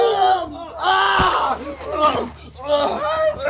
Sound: both keep on gruntin' and groanin'

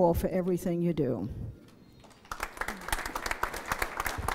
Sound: applause

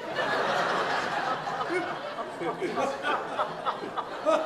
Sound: audience laughs

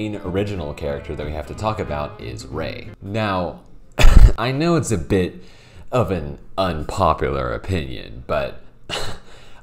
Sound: chuckles

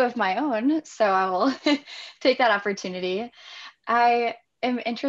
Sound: laughs

